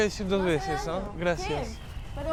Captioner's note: sarcastically